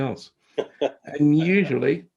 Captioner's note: laughs